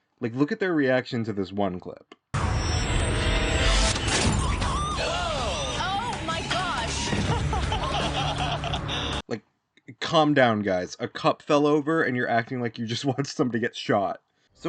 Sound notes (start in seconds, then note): 6.9 laughing